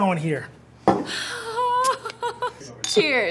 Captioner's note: laughing